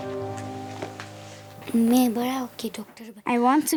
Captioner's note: speaking foreign language